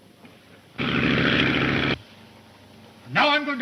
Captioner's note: engine droning